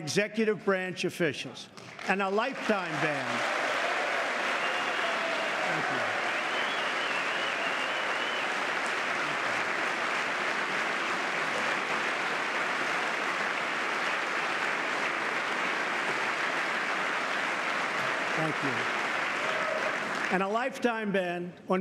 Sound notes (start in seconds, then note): 7.7 applause